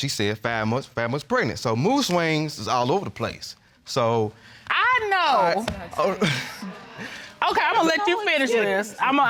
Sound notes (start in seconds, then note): 6.0 chuckles